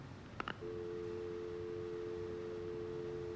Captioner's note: dial tone